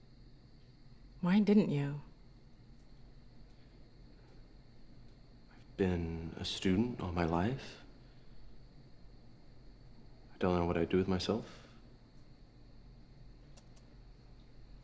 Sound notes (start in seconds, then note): none